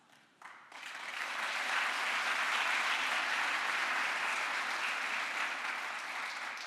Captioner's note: crowd applause